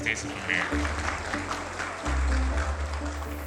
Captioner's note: audience applauding; rhythmic music continues